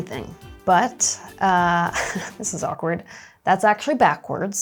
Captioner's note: laughing